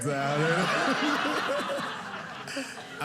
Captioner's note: audience laughing